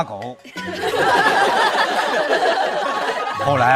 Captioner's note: laughing